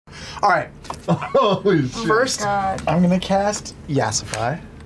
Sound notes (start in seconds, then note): 1.0 laughing